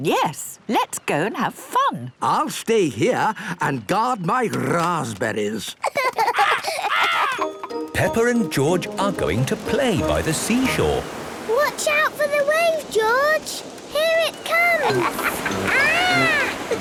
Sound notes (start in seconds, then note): 5.8 laughs; 14.7 laughs